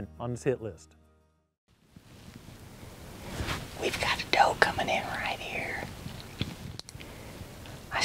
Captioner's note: whispering